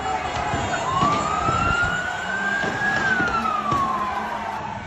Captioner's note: ambulance